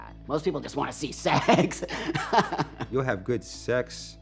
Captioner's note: laughing